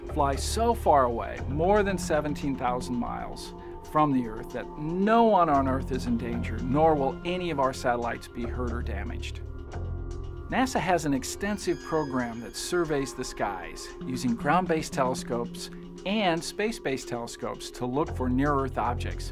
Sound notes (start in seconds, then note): none